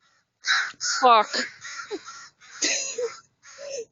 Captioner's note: awkward laughing